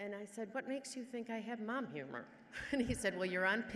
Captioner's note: laughs